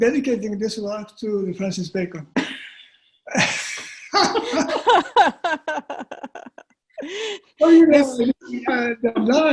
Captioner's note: laughter